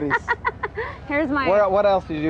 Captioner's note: Goddess laughing